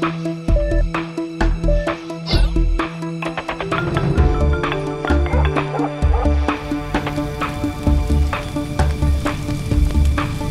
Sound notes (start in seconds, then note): 3.6 phone Chime; 5.3 phone Chime & Dog Barking